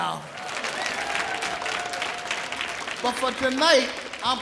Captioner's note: audience cheering